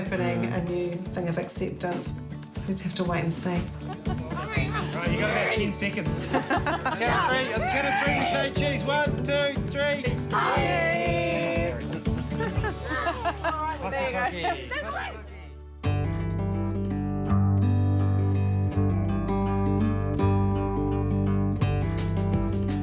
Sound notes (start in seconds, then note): 6.1 laughter; 12.3 laughter